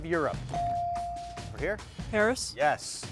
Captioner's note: bell chiming